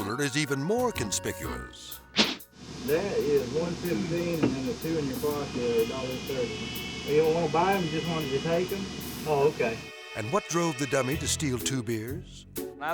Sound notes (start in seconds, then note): 2.2 air swoosh